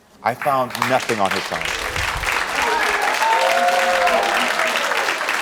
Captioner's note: audience cheering